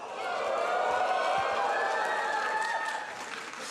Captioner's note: murmuring and applause